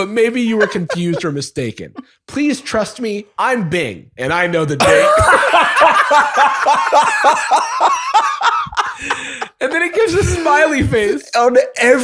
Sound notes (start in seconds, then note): 4.8 laughter